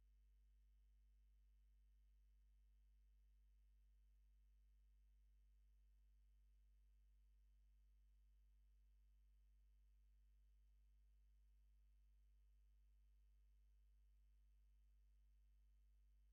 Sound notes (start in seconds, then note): none